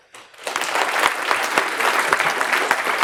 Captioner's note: applause